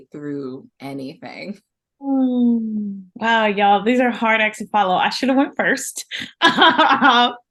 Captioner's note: laughter